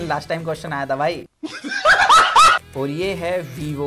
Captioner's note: laughs